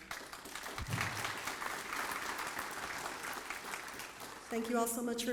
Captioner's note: applause